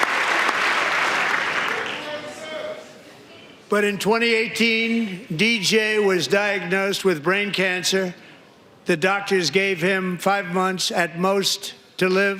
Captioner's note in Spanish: aplausos